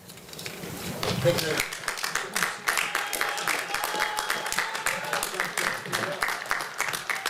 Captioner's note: applause